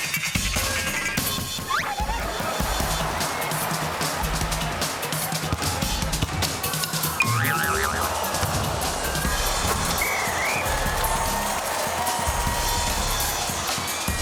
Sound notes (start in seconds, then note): 1.9 laughter; 9.5 whistle blows; 11.4 cheers and applause